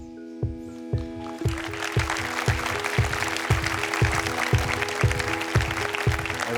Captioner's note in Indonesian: Tepuk tangan